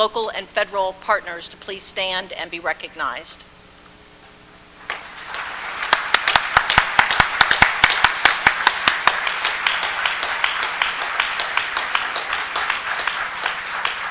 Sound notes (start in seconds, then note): 3.3 applause